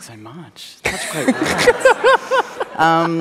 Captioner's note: laughter